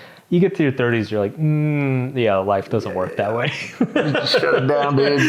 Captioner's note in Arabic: يضحك